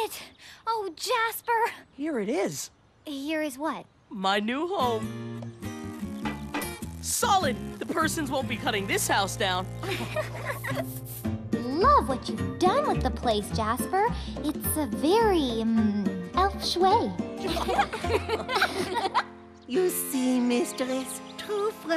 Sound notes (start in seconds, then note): 6.2 knocking; 9.8 laughing; 17.4 giggling